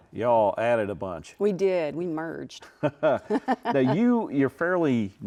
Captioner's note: both laugh